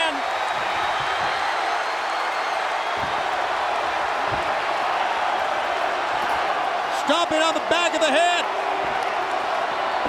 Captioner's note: crowd cheering